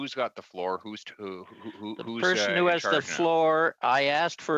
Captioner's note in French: voix de l'interprète